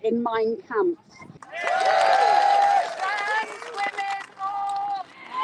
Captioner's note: crowd cheers